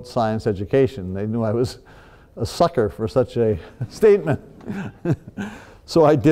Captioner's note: laughs